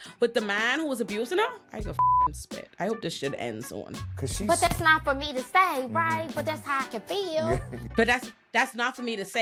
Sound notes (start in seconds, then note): 2.0 beep